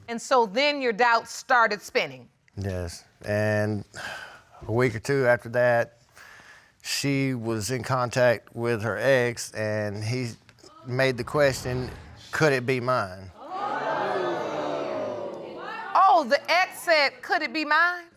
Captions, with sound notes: And so then your doubts started spinning. Yes, and a week or two after that, she was in contact with her ex and he made the question, "Could it be mine?" [audience exclaims] Oh, the ex said, "Could it be mine?"